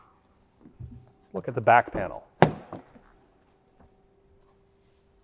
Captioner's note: door opens